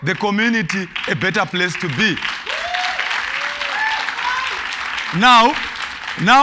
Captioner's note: cheers and Applause